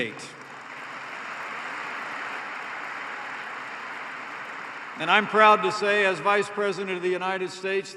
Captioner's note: applause